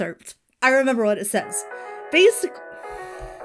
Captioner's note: ringtone plays